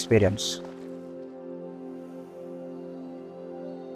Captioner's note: in Malayalam